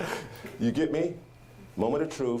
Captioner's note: audience laughing